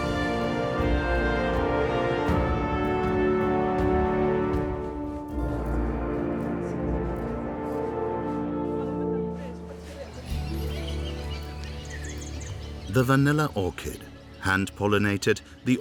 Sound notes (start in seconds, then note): 9.8 birds chirping; 10.0 gentle music